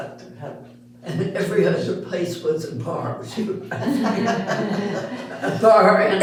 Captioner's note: all Laughing